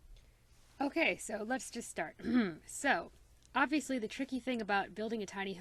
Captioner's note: clears throat